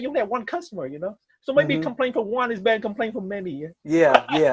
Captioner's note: laughs